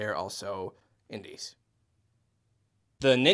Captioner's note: awkward silence